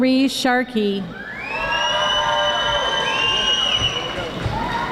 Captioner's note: audience applauding